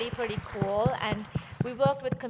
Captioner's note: applause